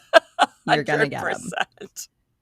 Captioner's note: laughing